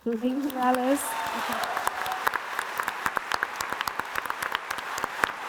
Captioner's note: audience applauding